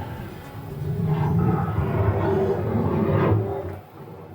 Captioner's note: bear roar